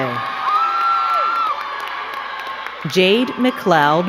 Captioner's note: crowd cheering and clapping